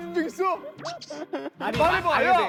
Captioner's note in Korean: 낄낄